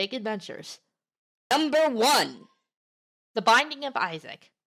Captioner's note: high-pitched and fast